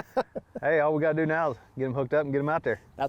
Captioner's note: laughing